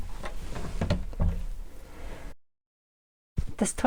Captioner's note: door closes